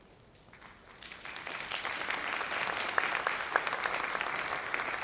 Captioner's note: audience applauds